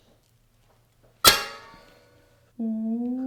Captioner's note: metal clanking